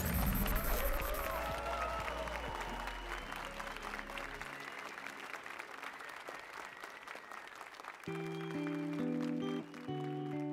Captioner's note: applause and cheers